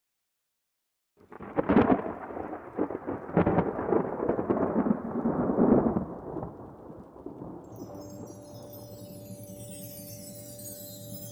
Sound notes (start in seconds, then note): 1.3 thunder rumbling; 7.6 whimsical music